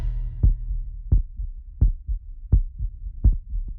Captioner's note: heart beating